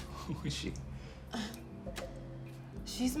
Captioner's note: laughing; sighs